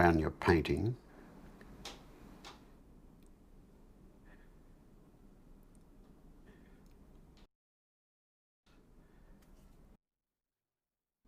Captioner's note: silence